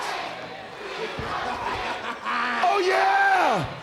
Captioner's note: crowd chants "We want Sting"